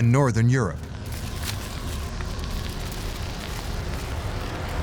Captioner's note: wind howling and crackling ice